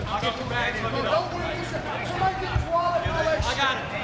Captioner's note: people chattering